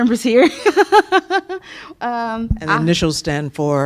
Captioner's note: laughter